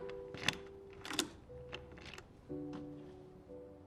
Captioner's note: door opens